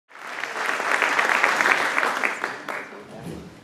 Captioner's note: clapping